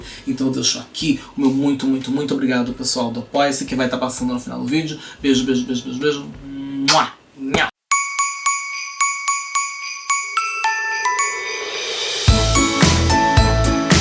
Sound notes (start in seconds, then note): 6.9 smack